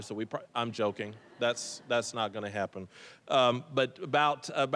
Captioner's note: audience laughing